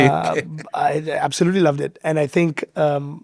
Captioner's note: chuckles